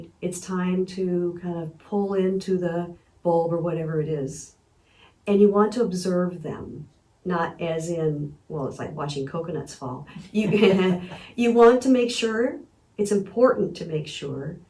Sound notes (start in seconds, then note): 10.1 chuckling